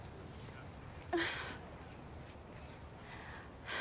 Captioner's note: sighs